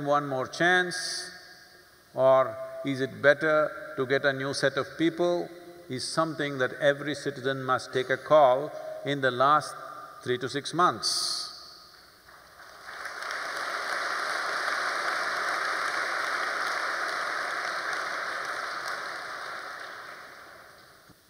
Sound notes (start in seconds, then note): 14.2 applause